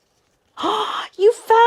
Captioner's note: gasping